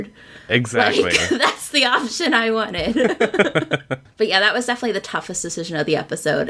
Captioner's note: laughter